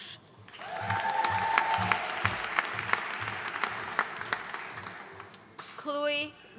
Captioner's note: audience cheering and applauding